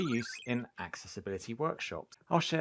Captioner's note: squirrely electronic noise